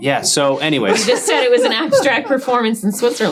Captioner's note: laughing